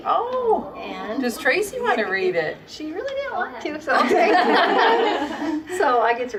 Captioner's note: laughter